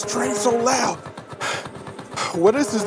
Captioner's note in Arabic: صراخ القطار